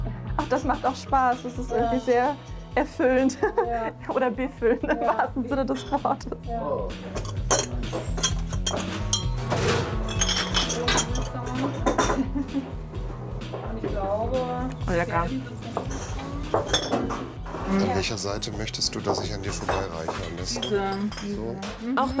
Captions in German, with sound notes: Das macht Spaß. Das ist irgendwie erfüllend. Oder befüllend, im wahrsten Sinne des Wortes. *Klirren* Mhm, lecker. An welcher Seite willst du, dass ich an dir vorbeireiche? Diese.